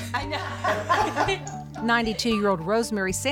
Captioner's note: laughter